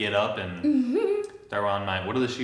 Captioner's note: giggles